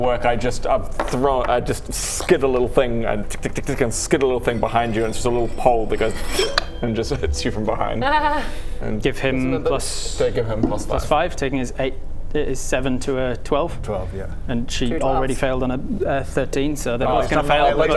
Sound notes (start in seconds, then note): 3.1 tick tick tick; 6.4 plink!